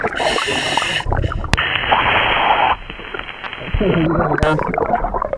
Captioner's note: water burbling; regulator hissing; water burbling